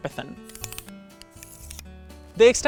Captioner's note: sticks clicking